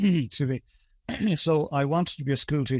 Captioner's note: clears his throat